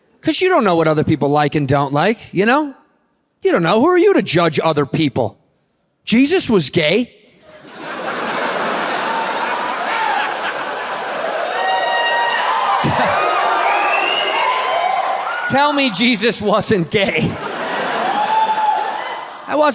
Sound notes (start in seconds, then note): 7.4 audience laughs; 11.8 audience cheers; 17.6 audience laughs and cheers